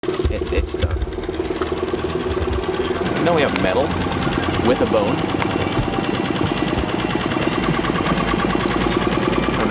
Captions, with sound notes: - It's stuck. (boat motor whirring) - You know we have metal with a bone.